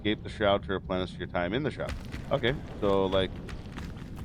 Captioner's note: fire crackles